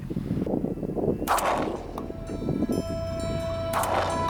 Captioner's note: gunshot